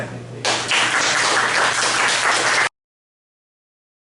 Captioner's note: applause